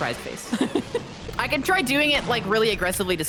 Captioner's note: laughs